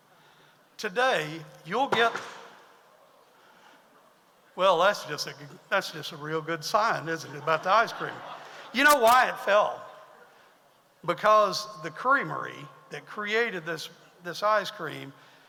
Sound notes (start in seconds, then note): 1.9 sign falls to floor; 7.2 audience laughs